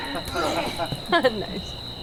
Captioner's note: grunts; Puck groans